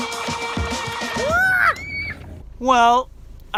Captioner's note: girl screams